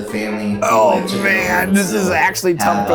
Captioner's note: site rep speaking faintly